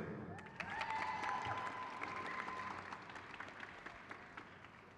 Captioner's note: crowd claps